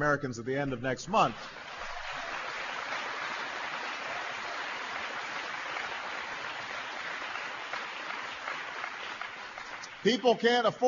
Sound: applause

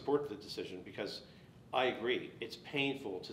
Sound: none

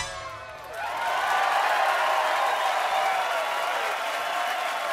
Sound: cheers and applause

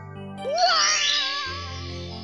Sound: Crab Mario screams as he is pulled into the abyss

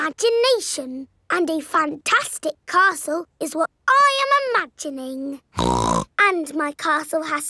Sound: snorts

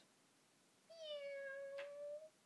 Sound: Ichigo meowing

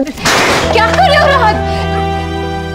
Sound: bang

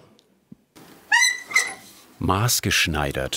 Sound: short squeak

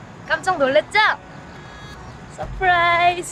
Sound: bang!

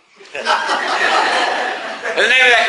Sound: class laughs

